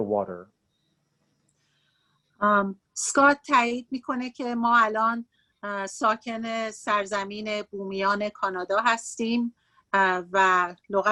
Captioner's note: speaking Farsi